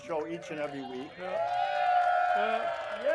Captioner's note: crowd cheers